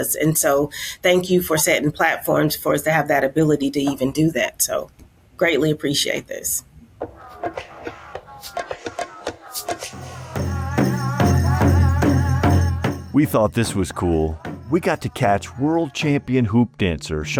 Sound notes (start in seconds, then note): 7.4 rhythmic music; 10.6 drums beating; 10.6 people chanting